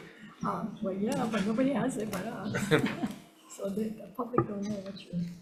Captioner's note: chuckles